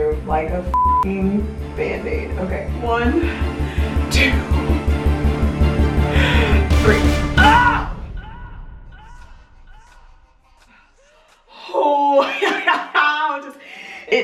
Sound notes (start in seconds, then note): 4.3 intense music; 7.4 screaming; 11.7 laughing